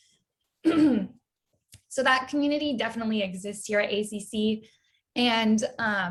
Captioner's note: clears throat